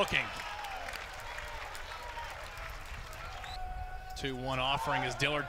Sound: clapping

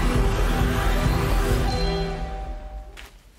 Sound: door bell

